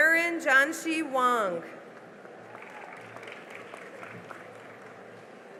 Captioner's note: cheering and applause